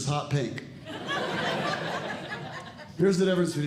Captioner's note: audience Laughing